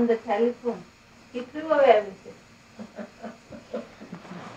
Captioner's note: shri mataji laughs